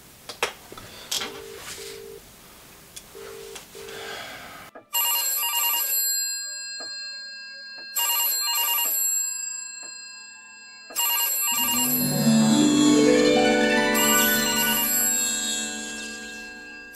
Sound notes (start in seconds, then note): 5.0 phone rings